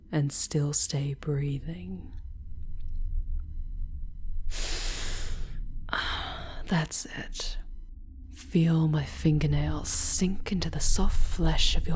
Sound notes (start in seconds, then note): 4.5 inhaling sharply as she grips your jaw, holding you still